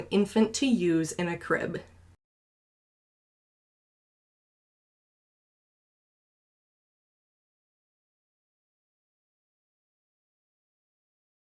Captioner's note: silence